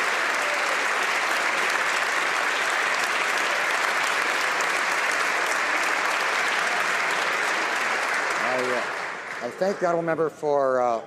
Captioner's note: some Applause